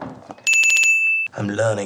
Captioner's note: a crap ton of dinging